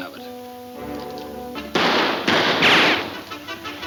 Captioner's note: guns firing